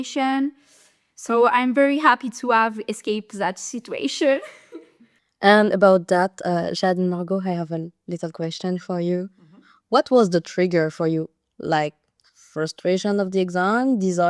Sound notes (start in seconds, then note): 4.3 laughter